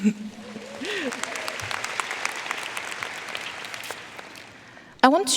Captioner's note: audience cheering and applauding